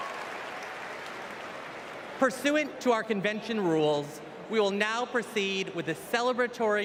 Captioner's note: applause